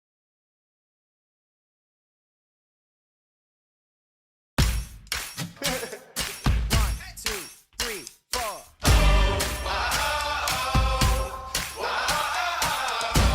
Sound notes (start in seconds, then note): 4.7 upbeat music; 5.5 singer laughing